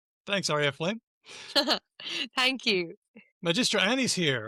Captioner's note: laughs